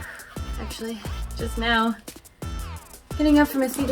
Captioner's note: blow breathing